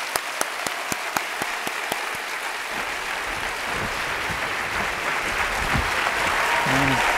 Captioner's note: applause